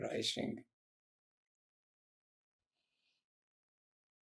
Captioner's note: pauses 6 seconds